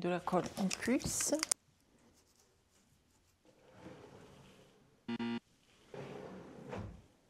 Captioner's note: bip